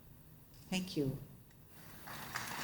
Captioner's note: applause